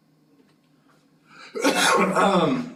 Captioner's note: cough